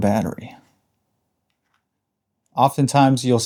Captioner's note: silence